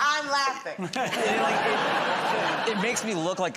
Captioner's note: laughter